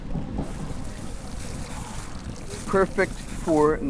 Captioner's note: tawa hissing